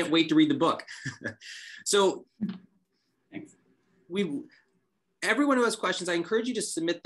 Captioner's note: laughter